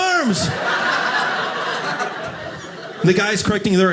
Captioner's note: audience laughing